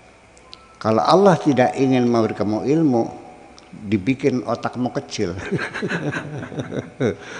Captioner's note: laughs